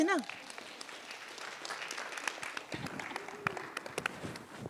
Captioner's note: audience applauds